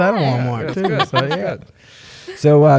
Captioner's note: laughs